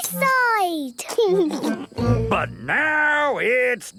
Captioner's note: laughing